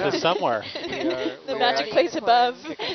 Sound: everyone laughs

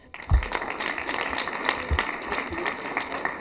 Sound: applause

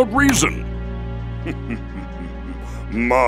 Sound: evil chuckle

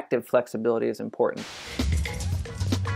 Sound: static noise; upbeat music

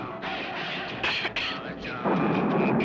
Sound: coughs

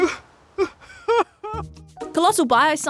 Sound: cries theatrically

